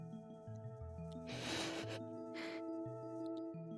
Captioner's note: giggling